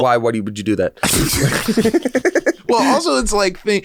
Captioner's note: both laugh